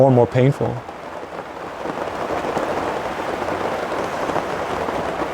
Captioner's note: helicopter whirring